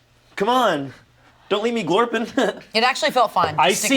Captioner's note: laughs